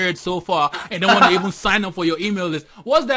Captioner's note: laughter